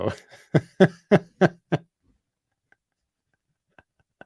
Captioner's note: laughter